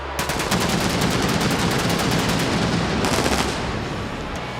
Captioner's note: fireworks booming